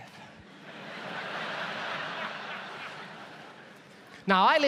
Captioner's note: audience laughs